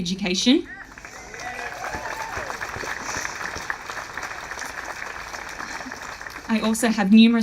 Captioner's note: audience applauding